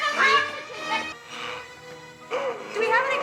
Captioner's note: Donald gasping